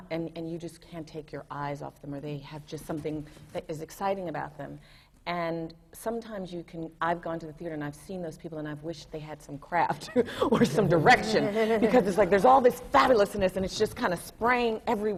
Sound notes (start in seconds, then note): 10.1 laughter